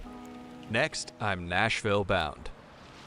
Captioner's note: voiceover